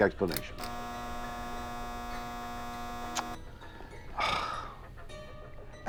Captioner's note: buzzer buzzes; sighs